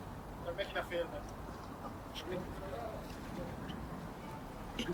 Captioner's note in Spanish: charla confusa